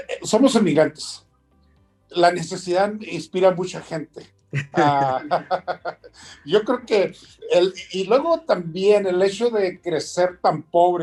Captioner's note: laughs